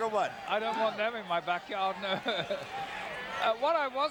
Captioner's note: laugh